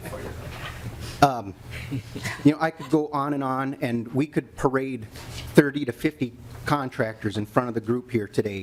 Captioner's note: laughing